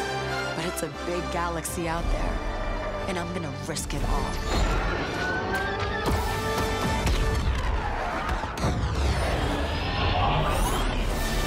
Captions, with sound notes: But it's a big galaxy out there, and I'm gonna risk it all. [STAR WARS LASERS BLASTING]